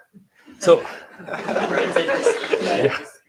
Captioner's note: laughter